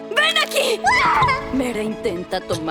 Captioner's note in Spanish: Molly grita